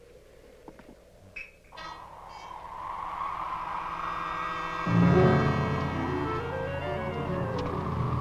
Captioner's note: wind howling; tense music